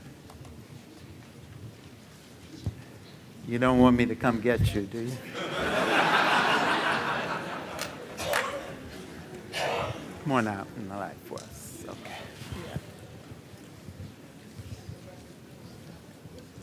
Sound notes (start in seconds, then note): 5.2 laughter